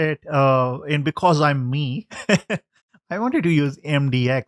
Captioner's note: lauging